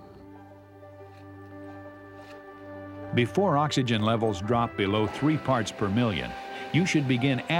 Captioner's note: voiceover